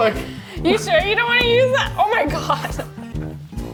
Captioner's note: chuckling